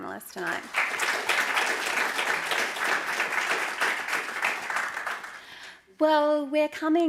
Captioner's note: applause